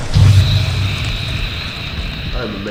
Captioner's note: smoke impact